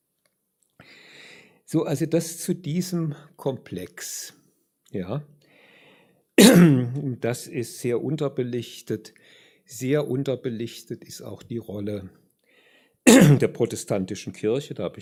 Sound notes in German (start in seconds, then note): 6.4 husten; 6.4 räuspern; 13.0 räuspern